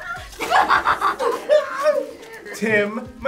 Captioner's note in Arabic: يضحك الجميع